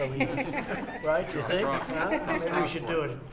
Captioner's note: laughter